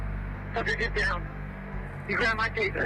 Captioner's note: muffled voice on radio